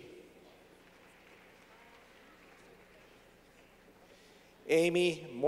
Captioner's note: clapping